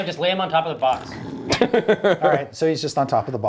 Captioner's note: snores